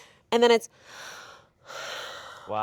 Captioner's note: gasps